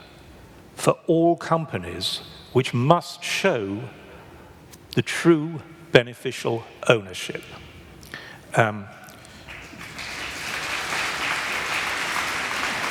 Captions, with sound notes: COMPULSORY PUBLIC REGISTER FOR ALL COMPANIES WHICH MUST SHOW THE TRUE BENEFICIAL OWNERSHIP. [ APPLAUSE ]